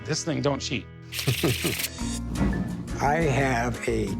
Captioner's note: chuckles